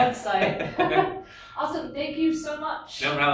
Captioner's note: laughs